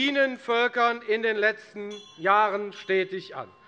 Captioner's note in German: Unruhe - Glockenzeichen des Präsidenten